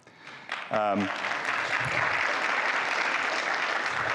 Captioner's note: audience applauding